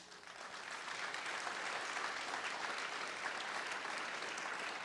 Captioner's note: audience applauding